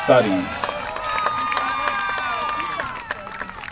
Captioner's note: applause